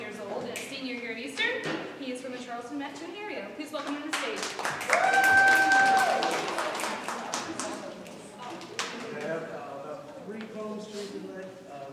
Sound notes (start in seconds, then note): 4.3 audience applause